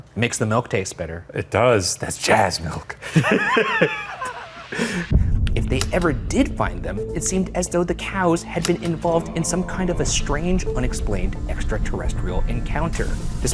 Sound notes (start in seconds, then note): 3.0 laughs